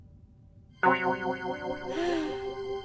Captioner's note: sighing